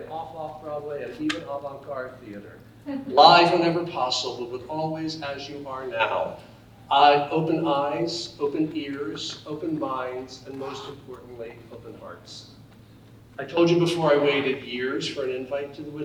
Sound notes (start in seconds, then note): none